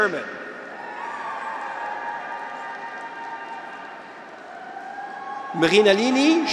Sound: graduates cheer; audience applauds

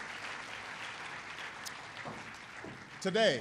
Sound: applause

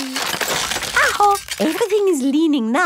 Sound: house creaking

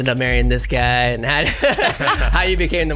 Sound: laughs

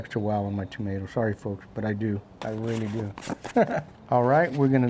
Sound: laughs

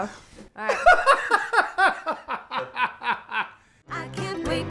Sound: laughing

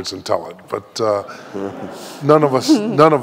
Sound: audience laughing

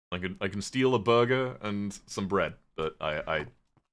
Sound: none

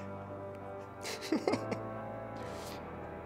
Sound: laughter

